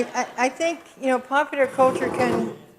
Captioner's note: audience chuckles